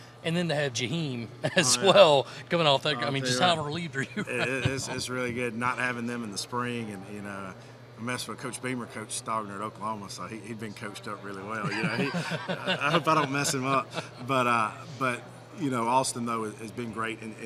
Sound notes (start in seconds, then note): 1.4 laughing; 11.6 laughing